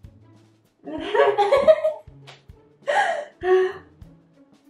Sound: both laugh

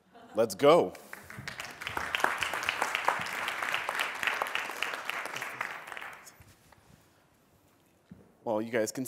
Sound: applause

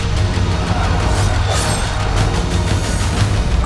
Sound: clamoring

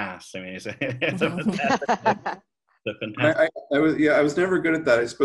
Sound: laughing

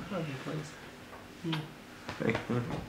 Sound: audible kiss

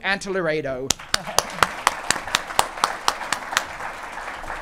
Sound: audience applauding

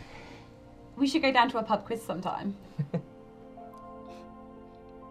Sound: laughs

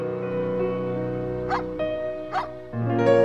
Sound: dog barking; soft piano music

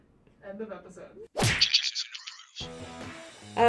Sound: splat; voice-over

